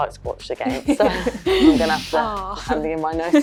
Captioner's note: Alessia and Leah laugh